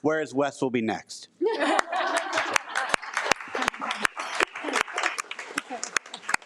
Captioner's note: attendees laugh and applaud